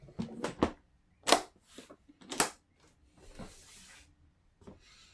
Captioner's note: case closing; clasps clicking